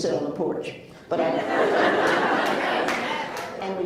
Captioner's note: laughs